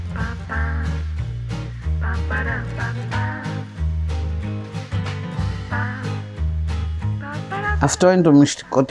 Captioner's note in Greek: χειροκρότημα